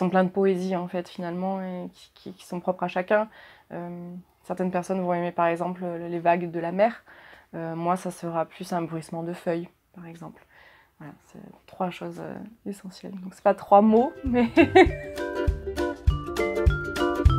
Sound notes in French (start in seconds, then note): 14.3 rires